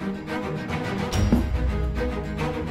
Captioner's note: soft thud